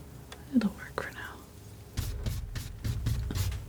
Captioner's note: scratching